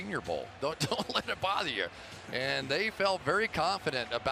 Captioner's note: laughs